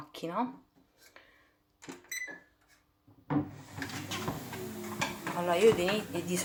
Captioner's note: tapis roulant keys noise